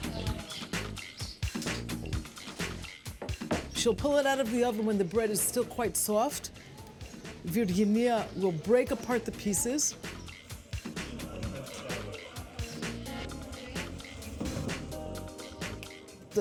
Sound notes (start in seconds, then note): 7.9 speaking greek